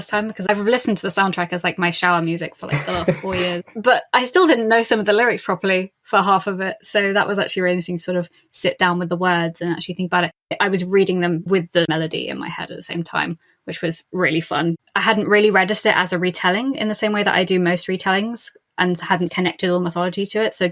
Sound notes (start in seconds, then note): 2.6 laughs